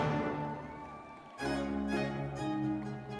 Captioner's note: audience members cheering